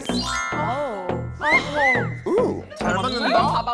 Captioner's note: chills-inducing sound effect